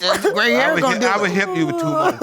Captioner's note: sobbing